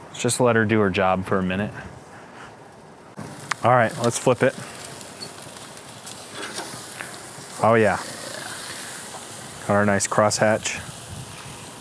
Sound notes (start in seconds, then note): 6.4 meat sizzling; 11.5 food sizzling